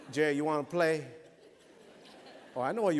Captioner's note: laughter